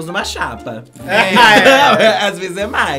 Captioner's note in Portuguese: risos